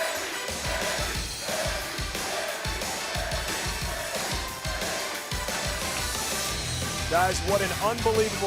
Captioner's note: crowd cheering